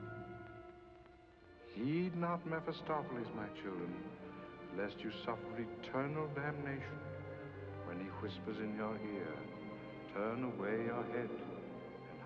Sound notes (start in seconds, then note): 0.0 suspenseful music; 1.7 reverend's voice